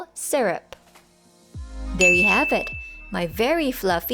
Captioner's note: timer Dings, Music